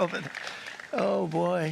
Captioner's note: applause